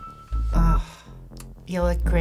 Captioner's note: scoffs